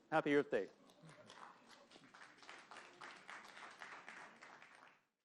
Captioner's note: applause